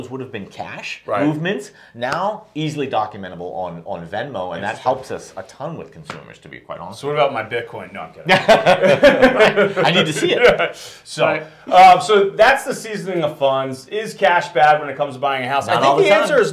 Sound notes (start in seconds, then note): 8.2 both laugh